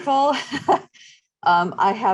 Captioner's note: chuckles